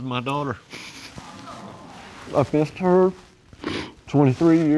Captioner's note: audience sighs